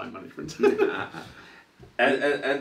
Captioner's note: laughs